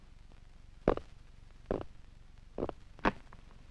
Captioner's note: John Carter Drumming Fingers